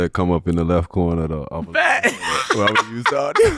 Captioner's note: laughing